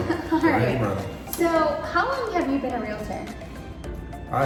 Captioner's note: laughs